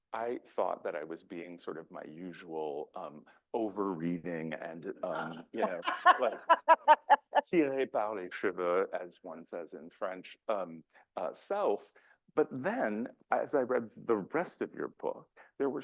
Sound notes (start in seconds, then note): 5.0 laughs; 7.7 speaking in French